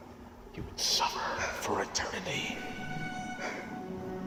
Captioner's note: echoes